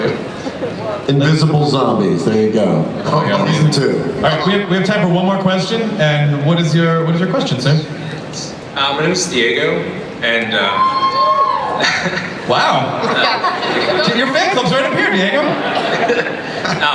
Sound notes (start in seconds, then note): 8.5 voiceover; 10.3 audience cheering